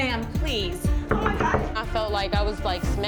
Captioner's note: knocking